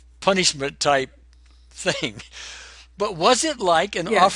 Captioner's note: chuckling